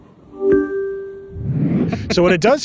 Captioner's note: screen dings